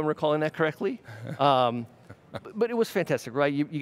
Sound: laughs

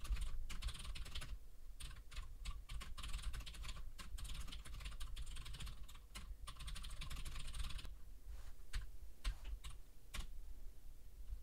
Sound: typing sounds

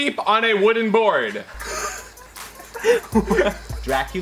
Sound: laughs

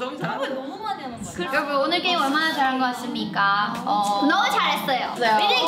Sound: speaking in Korean

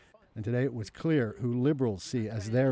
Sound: speaking French

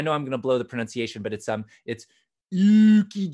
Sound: speaking fake Swedish

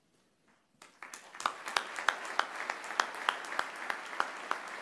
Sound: applause

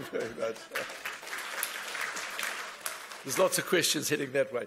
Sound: laughing; applause

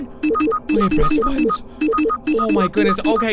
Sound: electronic dings

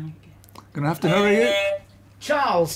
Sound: beep beep

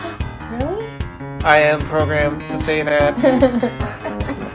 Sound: gasp; robotically; laughter

